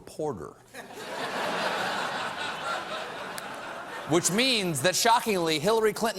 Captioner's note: laughter